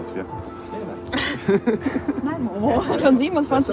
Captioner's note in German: Gelächter